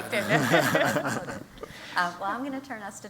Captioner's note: laughter